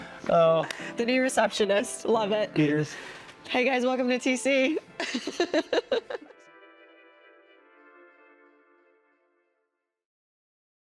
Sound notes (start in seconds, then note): 5.0 laughs